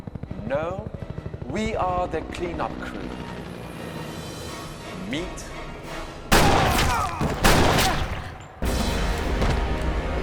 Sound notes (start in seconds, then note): 6.3 both groan